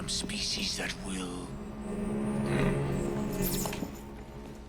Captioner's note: hologram buzzing